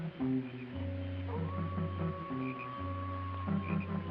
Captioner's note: coyote howls